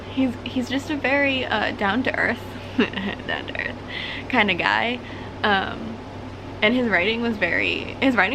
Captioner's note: chuckle